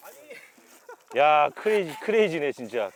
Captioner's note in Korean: 감탄